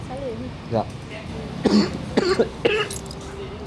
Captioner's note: coughing